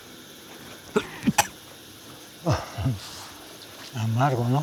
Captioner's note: coughs; speaking Spanish